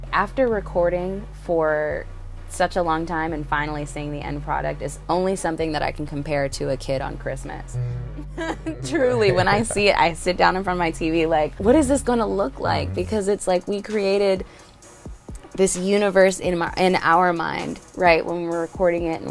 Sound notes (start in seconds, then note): 7.7 laughs; 7.8 chuckles